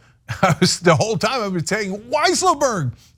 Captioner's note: laugh